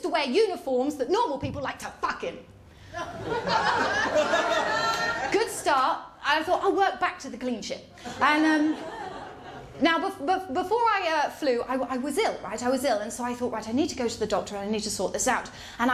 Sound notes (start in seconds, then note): 2.9 laughter